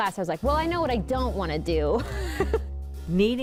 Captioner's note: laughs